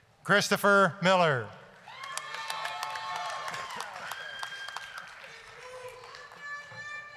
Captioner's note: applause, cheering